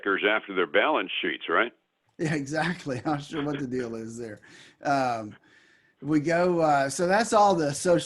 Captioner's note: laughs